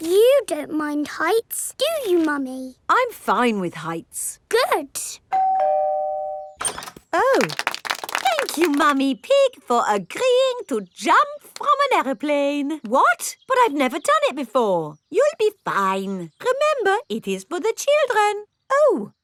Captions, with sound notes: But you don't mind heights, do you, Mummy? -I'm fine with heights. -Good. (DOORBELL RINGING) -Oh. -(CROWD APPLAUDING) Thank you, Mummy Pig, for agreeing to jump from an aeroplane. What? But I've never done it before. You'll be fine. Remember, it is for the children.